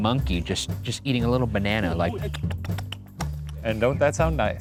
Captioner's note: smacks lips